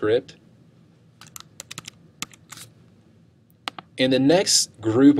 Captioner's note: buttons clicking